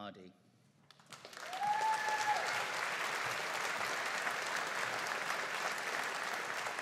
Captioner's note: audience cheering and applauding